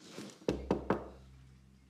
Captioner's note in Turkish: Kapı vurma sesi